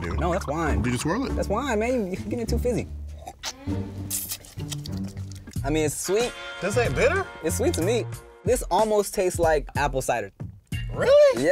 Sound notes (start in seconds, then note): 4.0 sipping and smacking lips together loudly